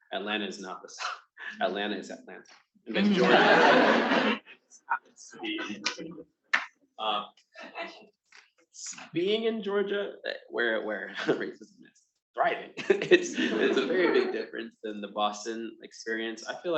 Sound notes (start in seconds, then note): 2.9 attendees laughing; 10.2 chuckles; 12.4 attendees laughing